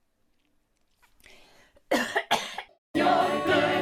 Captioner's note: coughs